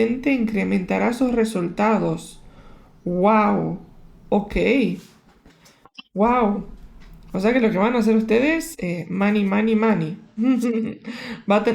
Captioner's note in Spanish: risas